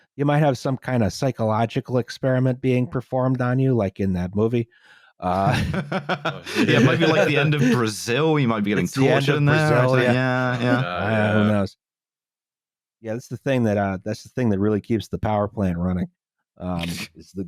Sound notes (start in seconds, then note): 5.3 laughter